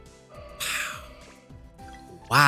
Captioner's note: sighs